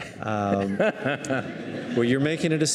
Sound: laughing

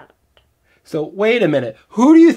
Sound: voiceover

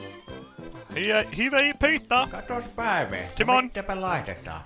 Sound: speaking swedish

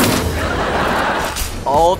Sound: laughing

